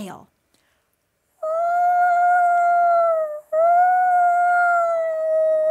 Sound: screeches

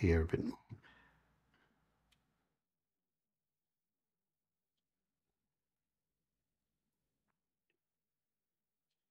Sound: silence

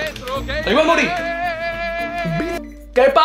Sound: call the phone ringing

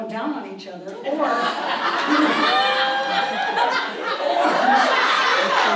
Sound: audience laughs

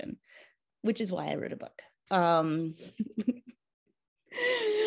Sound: chuckles

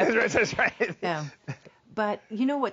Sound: laughs

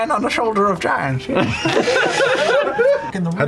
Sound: laughter

